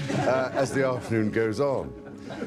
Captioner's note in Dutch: gelach